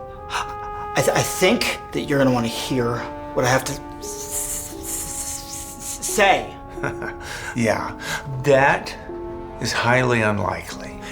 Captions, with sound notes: i- I think that you're gonna wanna hear what I have to s-s- - Say! - (chuckles) Yeah. That is highly unlikely.